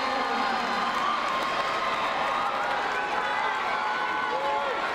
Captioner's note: crowd cheering